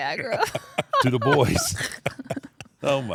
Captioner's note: laugh